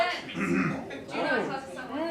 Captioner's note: clears throat